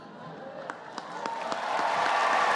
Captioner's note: applause